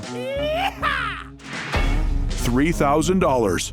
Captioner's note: cowboy yell